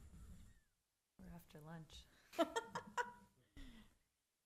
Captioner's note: laughter